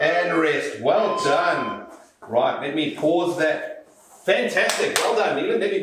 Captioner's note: beeping